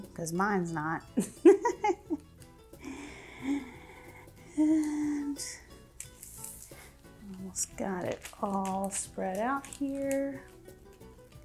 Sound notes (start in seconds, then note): 1.2 laughing